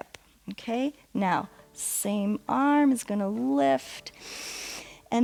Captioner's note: inhales